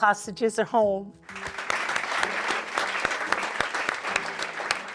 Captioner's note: audience applauds